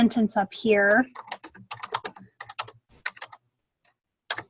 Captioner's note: typing